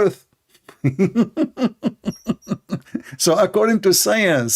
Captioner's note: Ketawa